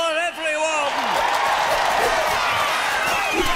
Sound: crowd cheers

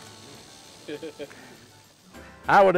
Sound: laughter

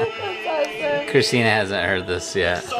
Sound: laughing

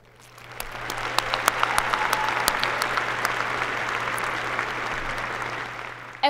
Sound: applause

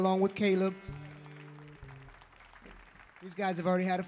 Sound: audience applauds

